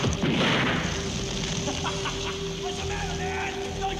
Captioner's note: man laughing